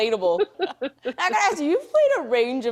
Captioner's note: laughing